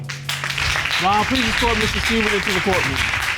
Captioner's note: all applauding